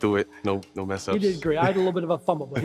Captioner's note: laughs